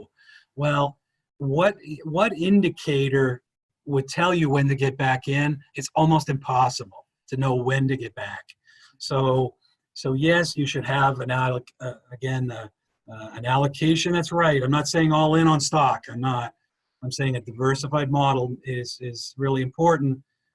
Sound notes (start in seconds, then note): none